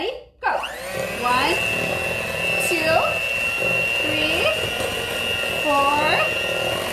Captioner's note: mixer whirring